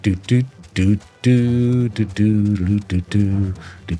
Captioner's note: humming